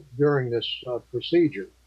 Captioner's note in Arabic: none